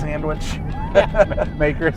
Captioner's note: laughing